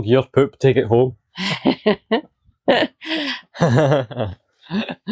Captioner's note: laughter